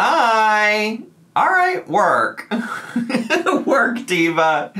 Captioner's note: laughs